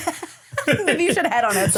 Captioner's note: everybody laughs